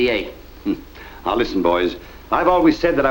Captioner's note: chuckles